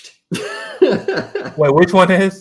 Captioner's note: laughs